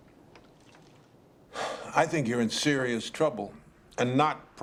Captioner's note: sighs